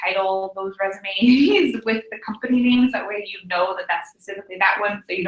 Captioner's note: laugh